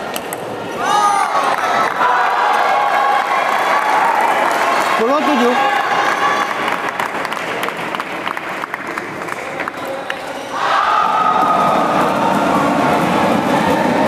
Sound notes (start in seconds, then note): 2.6 applause